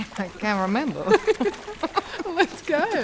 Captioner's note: laughing